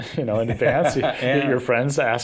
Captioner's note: laughter